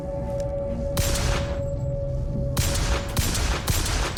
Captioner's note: guns blasting